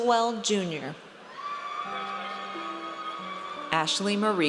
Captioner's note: audience cheers